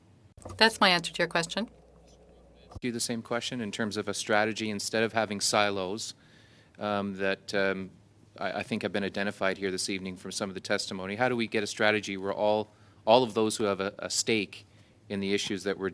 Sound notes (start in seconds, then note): 1.5 speaking French